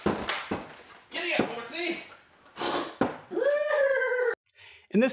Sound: neighs

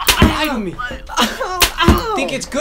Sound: whip sound; whip sound

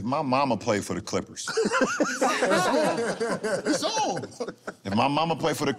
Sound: laughter

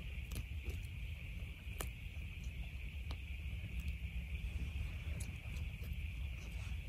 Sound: grass being torn with teeth can be heard

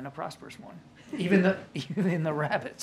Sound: laughter

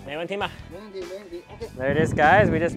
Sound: speaker speaks in foreign language; speaks in foreign language

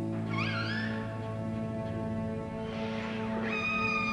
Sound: orca sounds

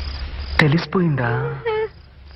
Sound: tv playing

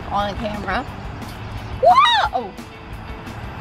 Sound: screams

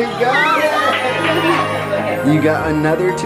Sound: cheering

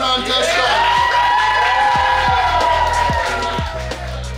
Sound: cheering

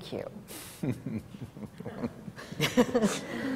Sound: laughs

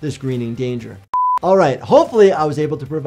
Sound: video beeping

